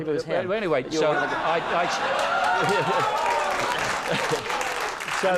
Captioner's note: laugher, applause